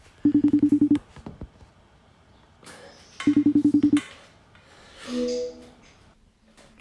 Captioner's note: phone beeps